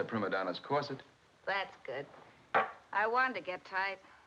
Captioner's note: glass clatters